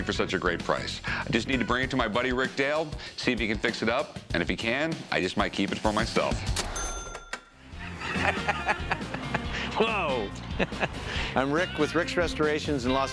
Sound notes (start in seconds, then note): 6.6 ka-ching; 7.7 laughs